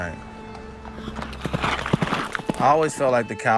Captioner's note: hooves pattering